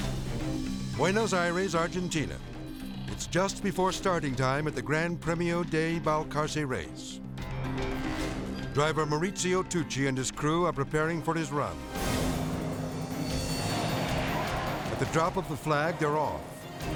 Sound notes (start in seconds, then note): 13.5 engines revving